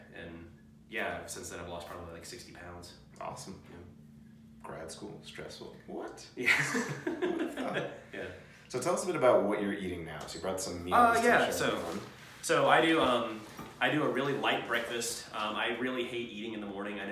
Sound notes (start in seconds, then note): 6.5 laughs